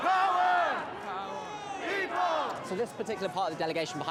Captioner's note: crowd